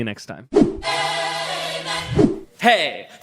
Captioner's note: screen whooshes